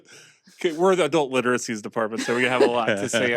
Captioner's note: chuckles